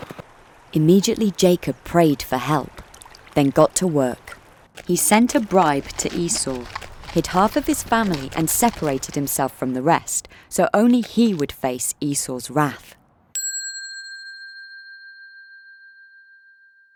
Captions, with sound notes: Immediately, Jacob prayed for help, then got to work. He sent a bribe to Esau, hid half of his family and separated himself from the rest so only he would face Esau's wrath. (bell dinging)